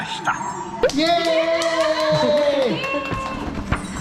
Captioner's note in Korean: 캐스트가 박수치며 함께 기뻐해 주심